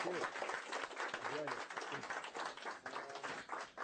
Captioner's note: applause